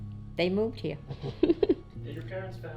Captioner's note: laughing